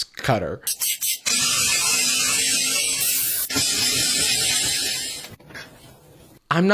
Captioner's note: spraying, scrubbing